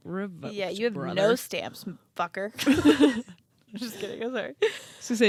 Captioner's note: both laugh